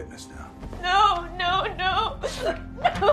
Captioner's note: sobbing; door opening, closing